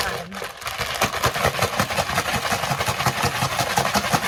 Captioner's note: bag rattling